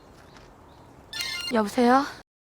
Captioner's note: incoming call